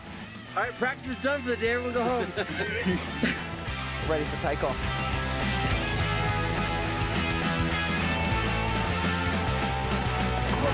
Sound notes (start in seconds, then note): 1.9 laughter; 5.8 rock music